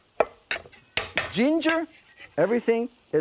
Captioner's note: none